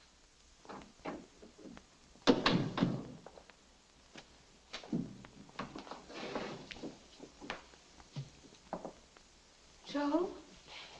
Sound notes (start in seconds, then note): 2.3 door thuds shut